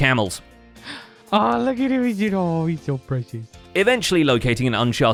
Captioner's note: baby talk